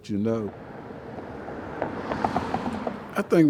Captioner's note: car engine revving